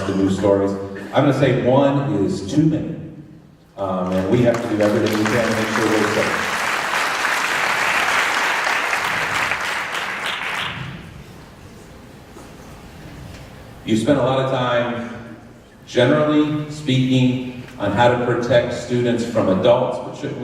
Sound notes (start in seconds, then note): 4.1 applause